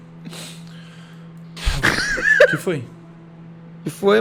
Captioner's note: laughs